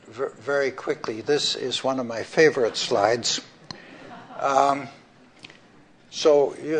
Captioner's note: laughter